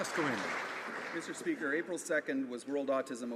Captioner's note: applause